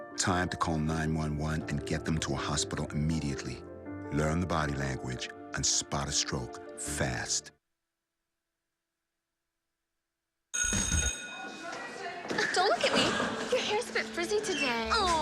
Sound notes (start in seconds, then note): 12.5 school bell rings